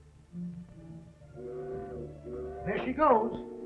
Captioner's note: fog horn blows